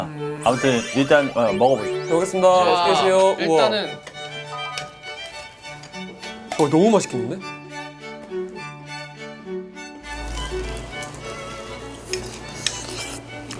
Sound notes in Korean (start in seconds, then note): 10.1 바사삭